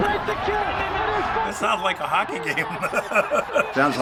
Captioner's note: chuckling